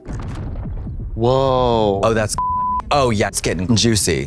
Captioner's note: beep